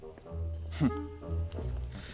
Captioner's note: Mario resopla